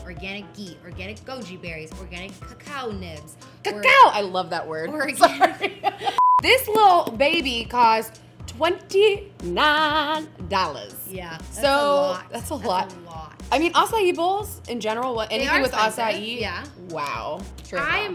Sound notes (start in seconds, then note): 5.2 both laugh; 6.2 beep